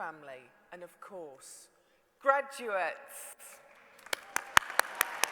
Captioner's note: applause